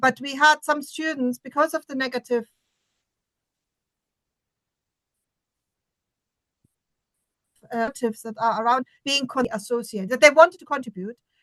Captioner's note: silence